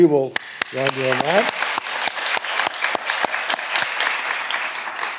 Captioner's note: all applauding